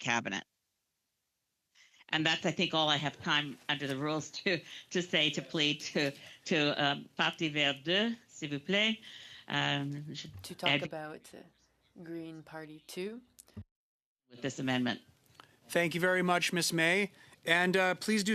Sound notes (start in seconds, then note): 12.4 speaking French